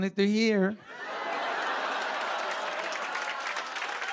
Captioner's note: laughter; cheers and applause